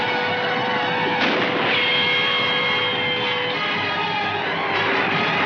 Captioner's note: gunshots firing